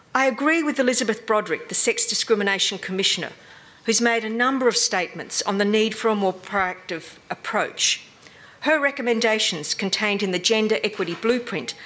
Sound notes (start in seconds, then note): none